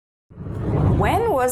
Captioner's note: air whooshing